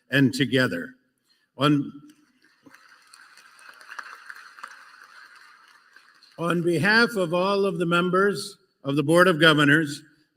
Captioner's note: applause